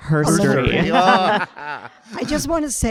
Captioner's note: panel laughing